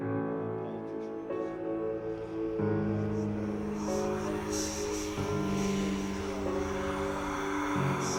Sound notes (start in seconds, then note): 1.8 ghostly whispering